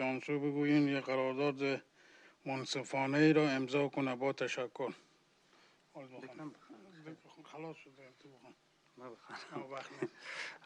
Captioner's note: speaking